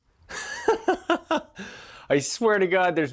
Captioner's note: laughs loudly